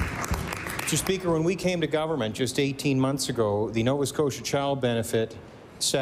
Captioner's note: applause